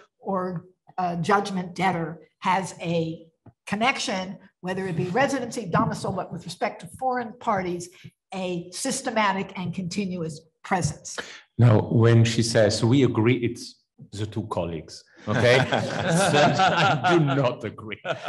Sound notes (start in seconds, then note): 15.2 laughs